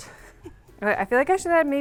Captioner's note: laughing